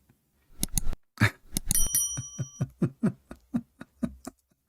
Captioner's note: laughing